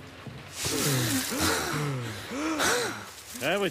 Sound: both panting

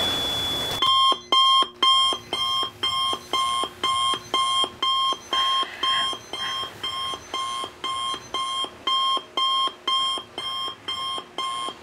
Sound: alarm clock

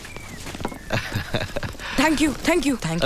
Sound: chuckles

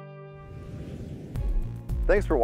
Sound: whooshing

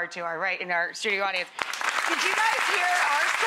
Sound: applause

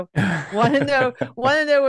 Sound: laughs

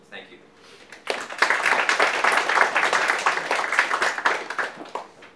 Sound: audience applauding

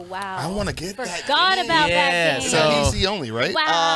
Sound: group chatters

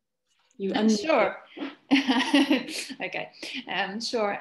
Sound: chuckles

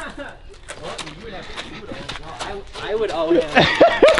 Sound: laughing

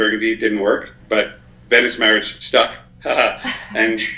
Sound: laughs

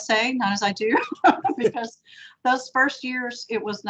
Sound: laughing

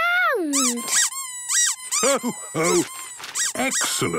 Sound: squeaking

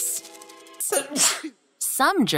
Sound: sneezes

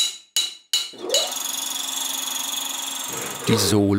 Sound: beatings on metal, humming

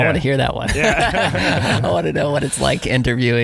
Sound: laughing

